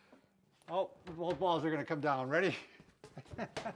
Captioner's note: laughs